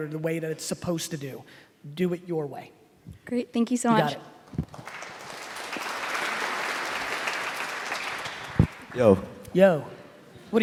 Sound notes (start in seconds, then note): 4.4 applauding